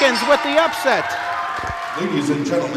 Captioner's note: audience cheers